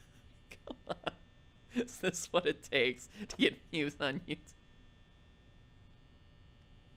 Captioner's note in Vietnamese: cười; thì thầm cái này là gì; im lặng